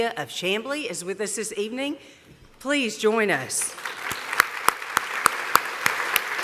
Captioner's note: applause